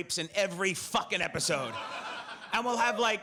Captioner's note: audience laughs